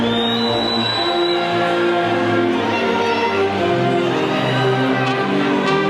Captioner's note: audience whistles and faintly shouts